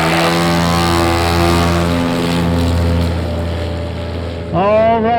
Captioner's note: airplane engine roaring